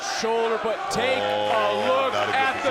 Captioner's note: audience chants